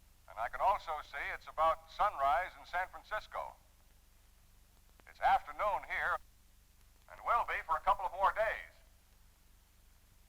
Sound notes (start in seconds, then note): none